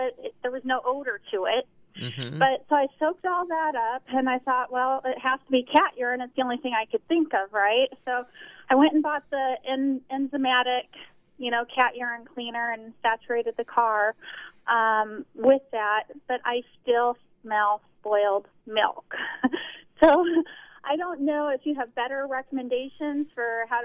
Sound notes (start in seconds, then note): 18.8 laughs